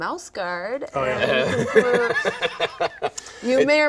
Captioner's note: laughing